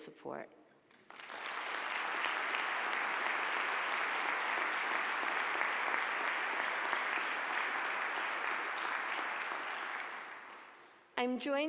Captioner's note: audience applause